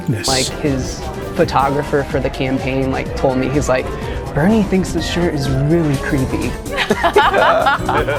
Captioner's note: laughs